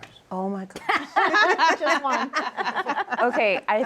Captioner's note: laughter